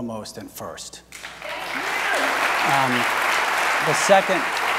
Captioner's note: audience applauds